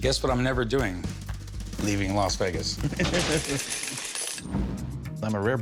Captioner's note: both laugh